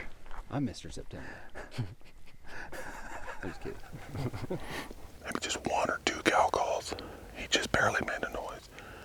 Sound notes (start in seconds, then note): 1.5 laughing